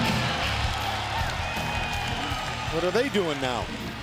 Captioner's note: crowd cheering